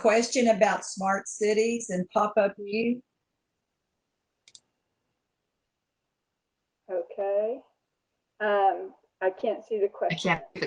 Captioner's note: audio cuts out